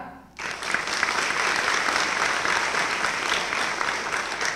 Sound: applause

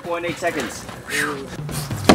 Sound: huff

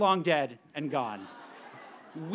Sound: audience members laugh

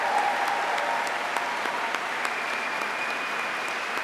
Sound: applause

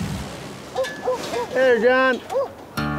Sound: barking

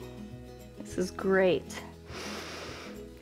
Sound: exhales; inhales

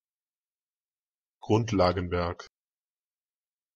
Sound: fast Pronunciation

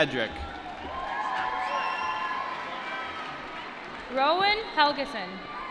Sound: applause

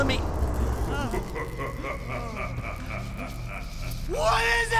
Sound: sinister laughing

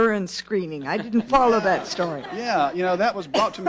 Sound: laughter

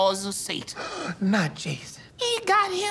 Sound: gasps

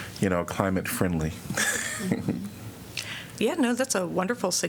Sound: laughter

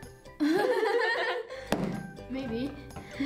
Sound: both laughing

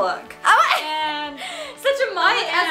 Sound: laughs

